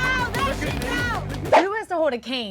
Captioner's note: air whooshing